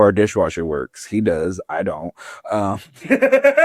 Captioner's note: laughs